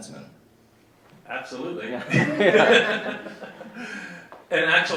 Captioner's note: laughs